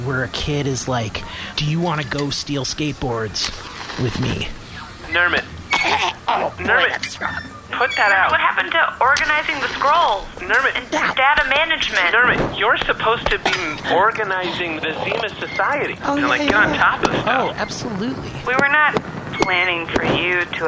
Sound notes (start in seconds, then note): 5.2 choking; 5.7 puffs the cigarillio and coughs